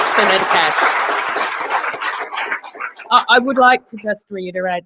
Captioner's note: applause